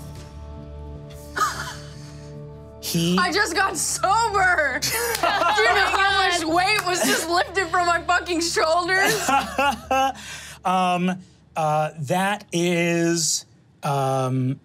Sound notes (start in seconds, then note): 0.2 mimics reverberations; 4.8 group laughing; 8.9 laughs